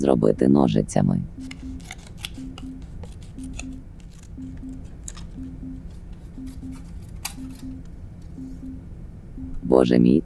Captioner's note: sounds of scissors